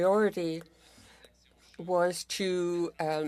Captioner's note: speaking French